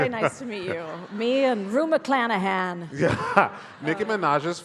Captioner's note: laughs